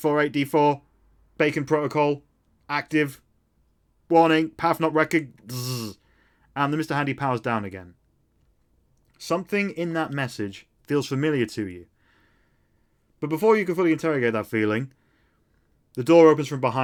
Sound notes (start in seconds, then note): 5.3 buzz